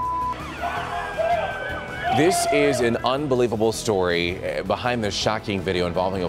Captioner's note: siren